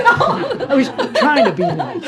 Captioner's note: laughs